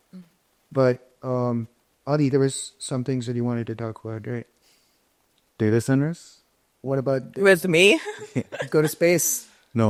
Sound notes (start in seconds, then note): 8.0 chuckles